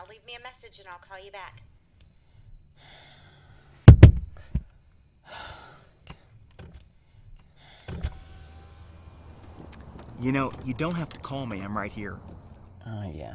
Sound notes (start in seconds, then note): 2.8 sighs; 3.9 tapping; 4.0 gasping